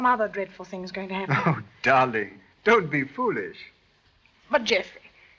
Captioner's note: laugh